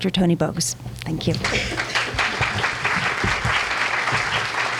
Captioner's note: applause